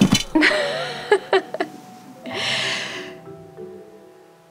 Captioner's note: gentle music; laughing